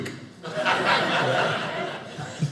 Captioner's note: audience laughing